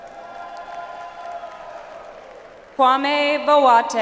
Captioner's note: audience applauds